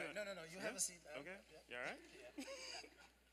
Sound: laughter

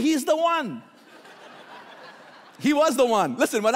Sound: laughing

